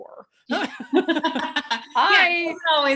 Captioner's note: laughs